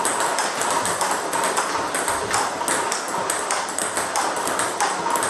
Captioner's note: ball ping pong hitting continues